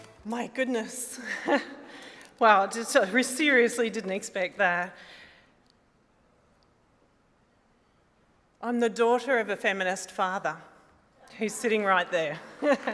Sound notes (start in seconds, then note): 1.2 chuckles; 2.3 stammers